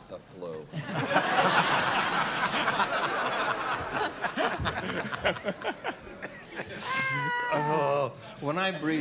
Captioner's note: laughter